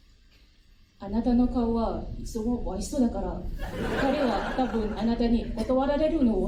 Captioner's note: crowd explodes